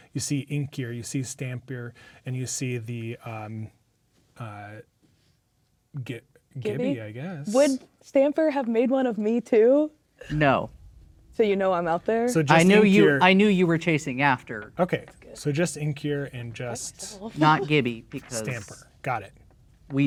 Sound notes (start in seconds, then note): 16.2 speaking quietly